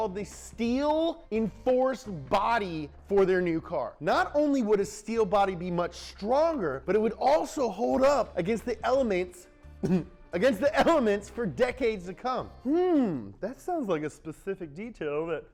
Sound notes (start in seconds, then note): 9.9 grunts